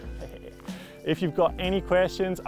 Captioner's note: laughs